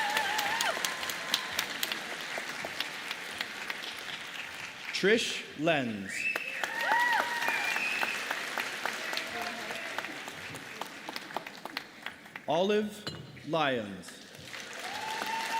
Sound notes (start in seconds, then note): 3.9 applause